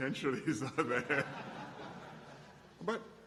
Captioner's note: laughter